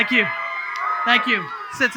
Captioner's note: audience cheering